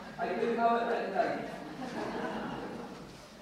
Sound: audience laughs

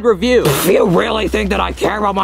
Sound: blows raspberry

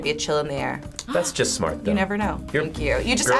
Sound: React gasps

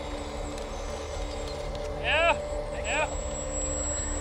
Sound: engine roaring

